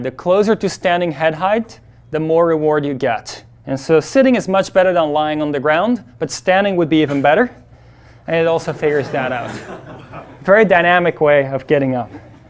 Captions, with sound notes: The closer to standing head height, the more reward you get. And so sitting is much better than lying on the ground but standing would be even better. And it also figures that out. (class laughs) Very dynamic way of getting up.